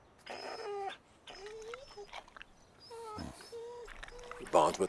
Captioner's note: Buck whimpering